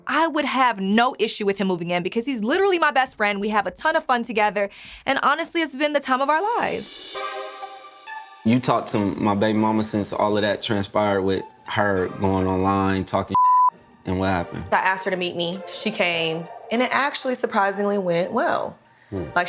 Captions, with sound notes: I would have no issue with him moving in because he's literally my best friend. We have a ton of fun together. And honestly, it's been the time of our lives. - You talked to my baby momma since all of that transpired with her going online and talking (beep) And what happened? - I asked her to meet me. She came and it actually surprisingly went well.